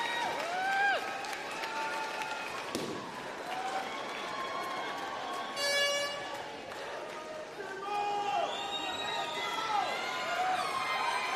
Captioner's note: applause